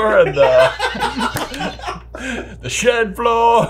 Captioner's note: laughing